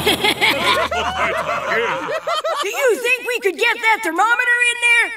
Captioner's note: laughing